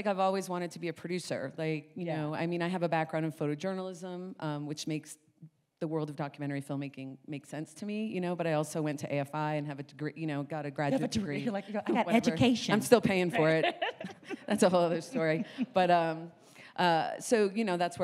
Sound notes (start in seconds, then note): 13.3 laughs